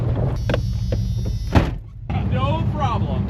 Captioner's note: truck buzzes; door thuds